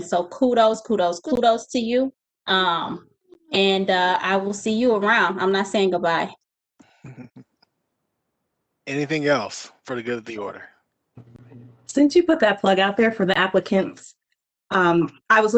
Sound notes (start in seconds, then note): 7.0 giggles